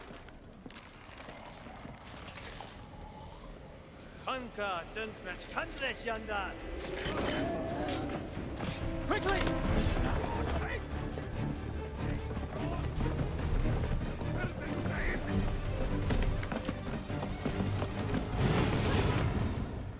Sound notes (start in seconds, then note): 6.9 assassins groaning; 14.1 speaking Thayan